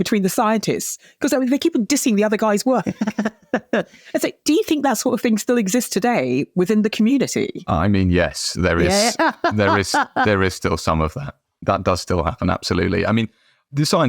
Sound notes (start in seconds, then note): 2.9 chuckles; 8.8 laughing